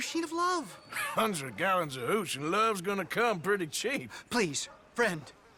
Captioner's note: laughs